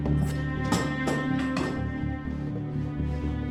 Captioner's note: clattering